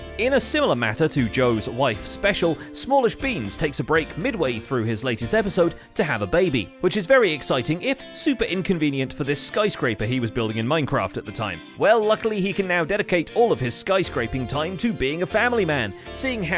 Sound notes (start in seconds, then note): none